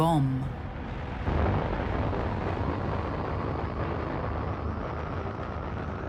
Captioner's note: rocket engines roaring